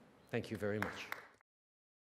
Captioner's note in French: Applaudissements